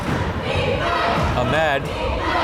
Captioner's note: crowd chanting defense